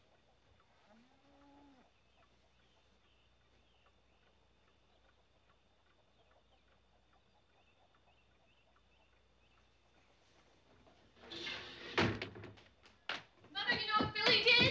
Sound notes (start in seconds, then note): 5.9 clock ticking